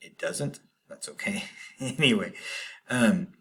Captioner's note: laughter